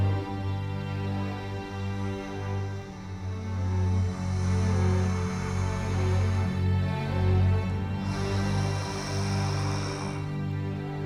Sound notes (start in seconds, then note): 1.5 heavy breathing; 7.9 guttural exhale